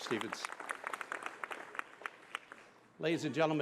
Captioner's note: applause